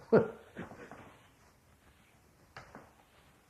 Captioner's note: laughs